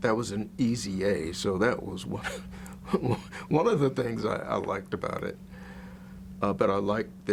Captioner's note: chuckles